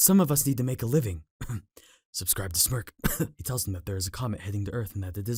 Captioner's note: cough